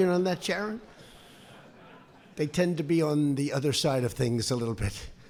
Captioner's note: laughter